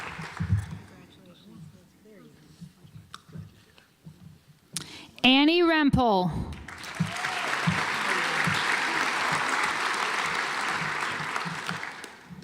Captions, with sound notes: Anne Rempel (audience applauds)